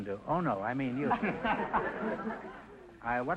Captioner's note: laughing